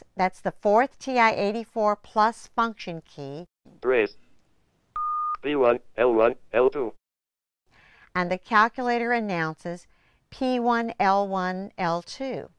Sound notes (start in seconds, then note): 4.9 beep